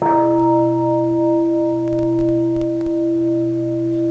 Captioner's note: bell